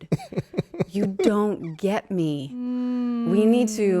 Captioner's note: Justin laughing